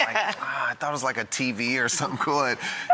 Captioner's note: laughs